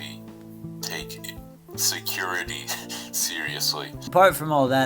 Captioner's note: laughing